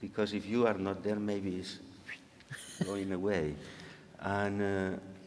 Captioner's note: whistling